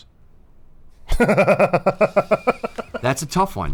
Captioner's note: cackles